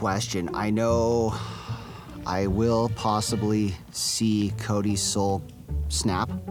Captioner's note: sighs